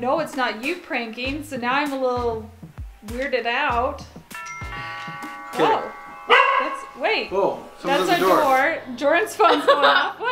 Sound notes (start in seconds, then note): 4.3 door bell ringing; 6.3 dog barking